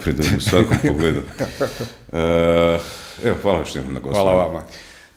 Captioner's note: laughter